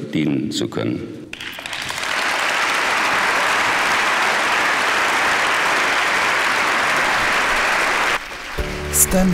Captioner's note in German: Applaus